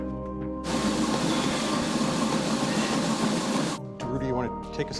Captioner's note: treadmill whirring loudly over dramatic electronic music